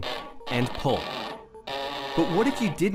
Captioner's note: stretching screech